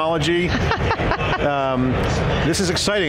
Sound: laughs

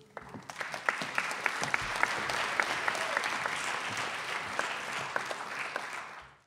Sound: audience applause

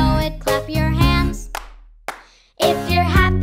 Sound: hands clap

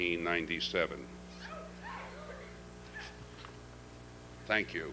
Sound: shouting

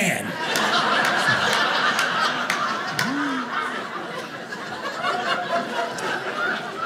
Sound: audience laughing

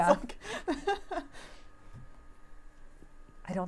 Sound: laughing

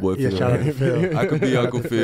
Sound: laughs

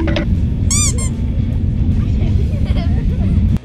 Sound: timer counting down; squeak

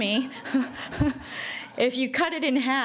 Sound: laughing

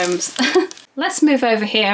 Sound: laughs

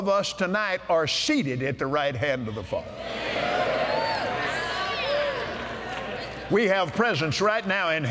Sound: cheers

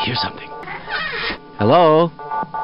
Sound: door squeak

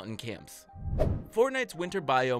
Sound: playful whoosh

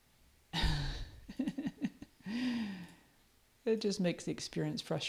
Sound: laughs

